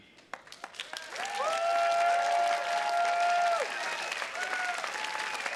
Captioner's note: attendees cheers and claps